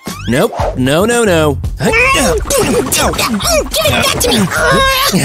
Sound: sounds of fighting

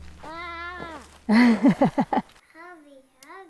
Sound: laughing

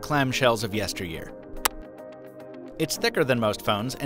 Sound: clicks

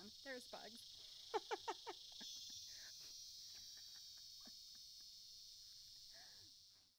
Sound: insects trilling; chuckling

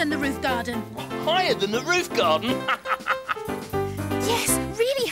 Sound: laughs

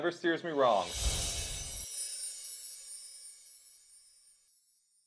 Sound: twinkle sounding

